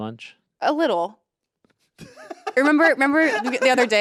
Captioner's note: Anthony laughs